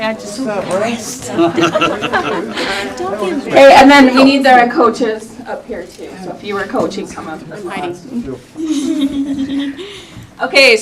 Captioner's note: laughter